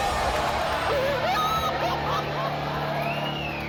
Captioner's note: crowd roars; wailing